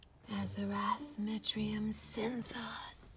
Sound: quietly

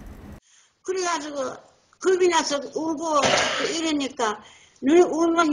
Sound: speaks in foreign language

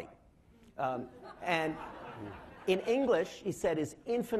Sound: laughing

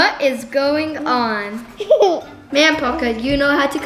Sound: laughs

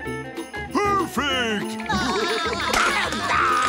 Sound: laughing

